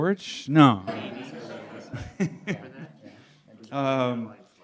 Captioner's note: laughter